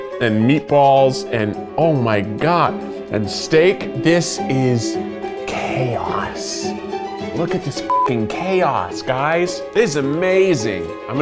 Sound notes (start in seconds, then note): 7.8 beeps